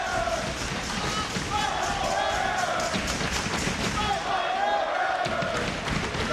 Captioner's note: applause